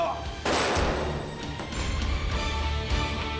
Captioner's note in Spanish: Disparo